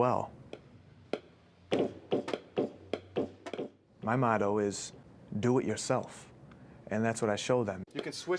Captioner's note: tapping out rhythm